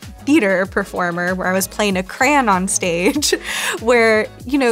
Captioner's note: laughs